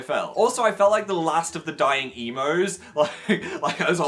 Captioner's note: laughs